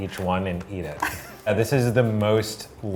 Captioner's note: laughing